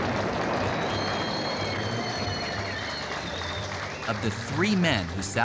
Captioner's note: applause and whistling